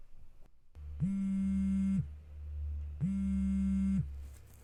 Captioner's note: phone ringing